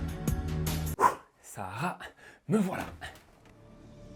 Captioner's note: exhales